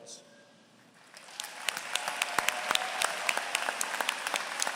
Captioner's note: applause